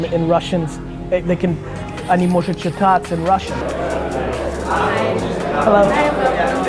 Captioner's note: speaking Russian